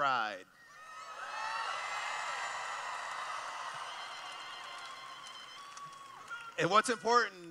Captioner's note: cheering